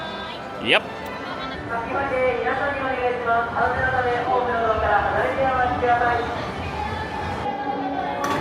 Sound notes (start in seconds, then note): 3.0 announcer speaking Japanese